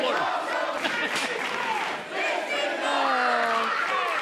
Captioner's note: laughter